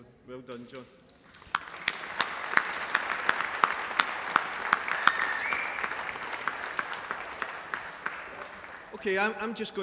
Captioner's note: applause